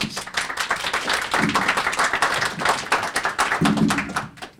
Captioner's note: audience applauding